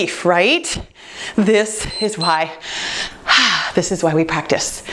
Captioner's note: timer beeps